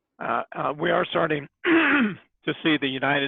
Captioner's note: clears throat